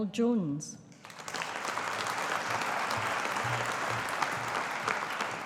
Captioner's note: audience applauding